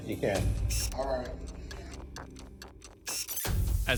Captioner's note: clock ticking